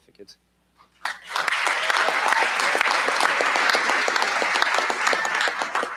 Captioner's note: applause